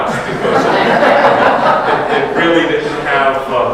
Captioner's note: audience laughs